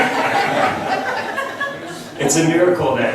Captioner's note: laughs